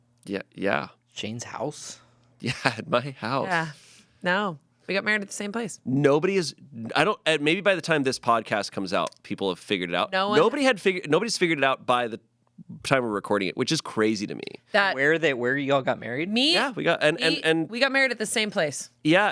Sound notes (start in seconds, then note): none